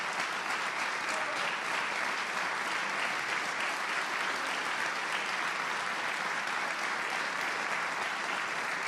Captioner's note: applause